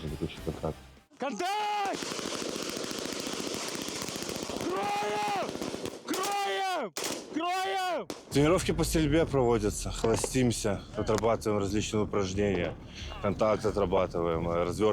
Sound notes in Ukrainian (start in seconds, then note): 4.6 крик